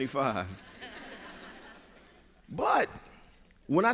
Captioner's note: laughter